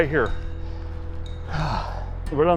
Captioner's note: breathing